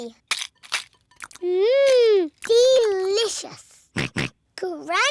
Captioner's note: george oinks